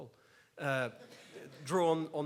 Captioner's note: laughs